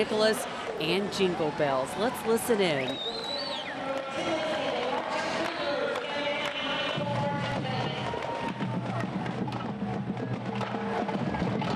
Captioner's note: whistles; band music